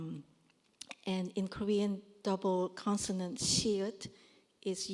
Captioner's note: korean